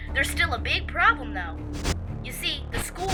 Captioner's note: phone garbles